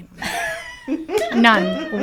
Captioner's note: people laughing